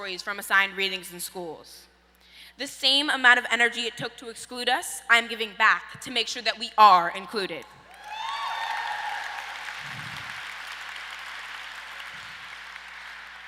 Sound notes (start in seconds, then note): 7.9 audience applause